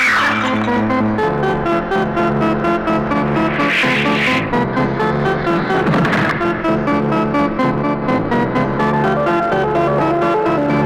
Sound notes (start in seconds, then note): 0.1 glass breaks; 5.8 door closes